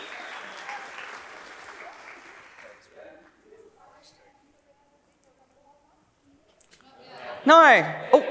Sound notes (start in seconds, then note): 0.0 cheering; 0.0 clapping; 6.7 instrumental music; 7.5 laughs